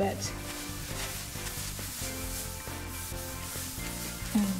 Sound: rubbing

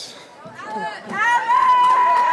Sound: cheering

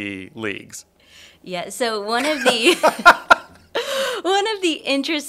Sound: both laugh

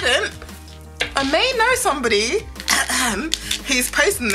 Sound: cough cough

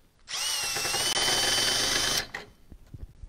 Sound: tool drilling

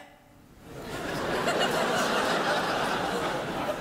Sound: crowd laughs

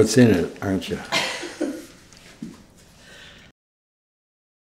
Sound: reporter chuckles

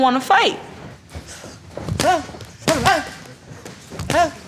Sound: grunting

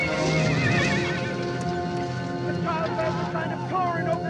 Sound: horse neighing

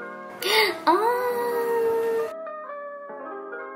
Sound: gasp

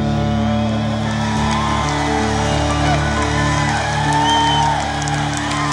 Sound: audience cheering

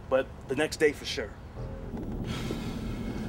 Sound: sighs

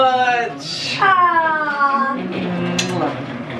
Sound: kissing

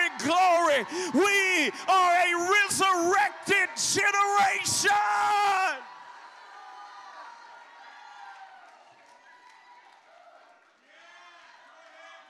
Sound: congregation Shouting

